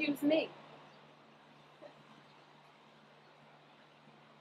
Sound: birds chirping

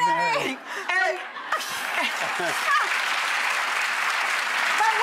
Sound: audience claps

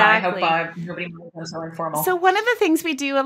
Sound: voice drowning

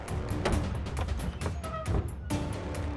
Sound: door opens

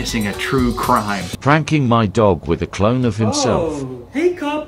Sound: robotic Voice

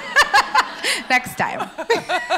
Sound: laughs

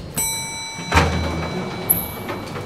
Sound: lift dings

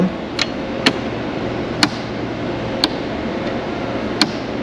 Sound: levers switching

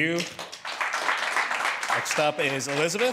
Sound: applause

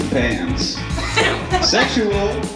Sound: laughter

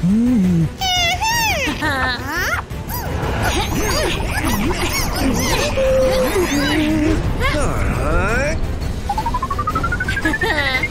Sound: making sounds of fighting

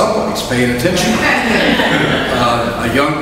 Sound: audience laughs

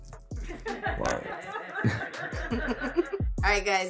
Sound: both laugh

